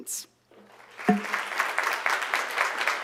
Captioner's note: applause